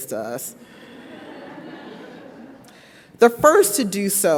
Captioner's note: audience laughs